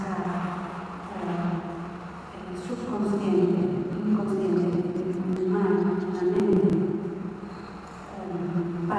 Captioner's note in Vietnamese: Tiếng Tây Ban Nha